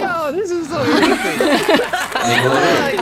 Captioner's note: haha